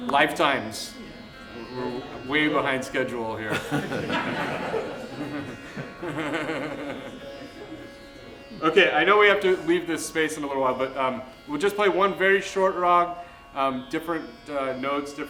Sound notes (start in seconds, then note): 3.4 laughter